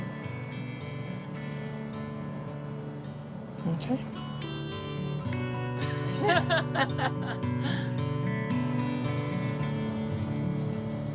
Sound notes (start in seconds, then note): 0.1 gentle music; 5.8 laughing